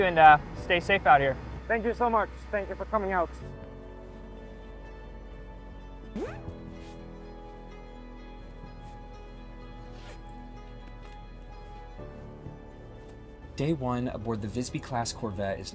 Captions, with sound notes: and stay safe out here. - Thank you so much, thank you for coming out. (gentle music continues) (zipper whirs) (zipper whirs) - Day one aboard the Visby-Class Corvette